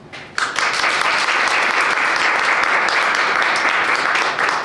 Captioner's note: audience clapping